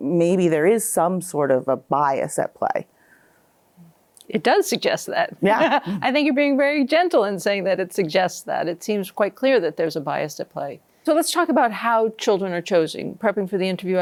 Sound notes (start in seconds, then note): 5.4 laughs